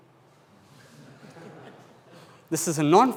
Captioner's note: audience laughs